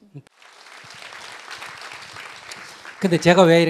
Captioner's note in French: Applaudissement du public